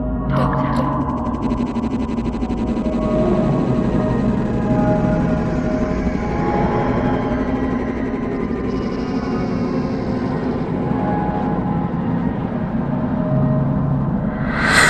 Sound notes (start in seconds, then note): 2.1 A low metallic voice speaks a name; 7.6 The TARDIS groans a last breath